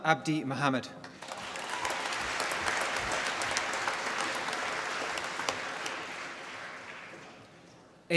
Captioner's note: applause